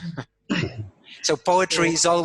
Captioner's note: laugh